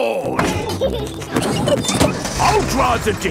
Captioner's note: peppa and george laughing